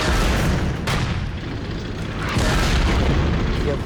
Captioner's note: tank turret firing; shell exploding; shell exploding